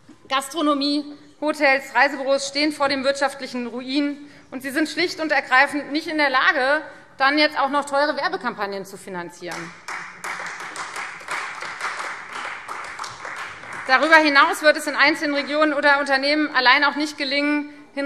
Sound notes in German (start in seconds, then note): 9.5 Beifall Freie Demokraten